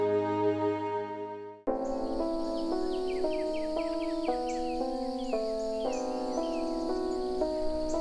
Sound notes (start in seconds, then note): 1.6 somber piano music; 1.7 birds chirping